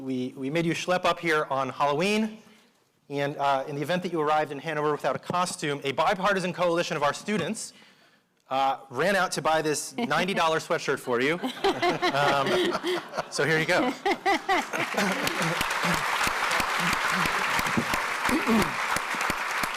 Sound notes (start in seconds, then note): 11.3 audience laughing; 13.5 audience applauding